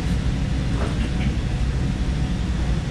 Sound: clears throat

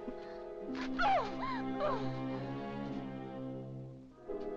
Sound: ominous music; Madelon yelps; ominous music

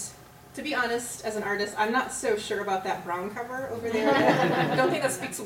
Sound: laughter

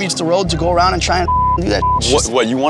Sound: beep

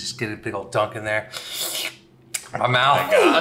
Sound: makes slurping noise

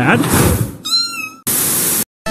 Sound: bam!; meow~

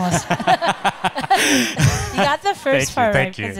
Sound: laughing

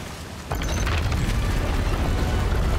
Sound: rumbling

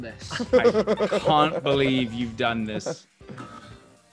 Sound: laugh

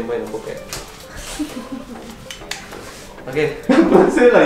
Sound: laughs; laughs

